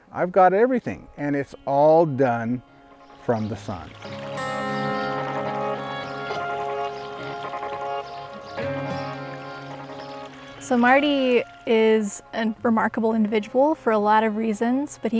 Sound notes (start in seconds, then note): 4.6 birds chirping; 4.6 calm music; 6.5 water trickles